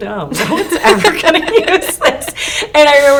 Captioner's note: both laughing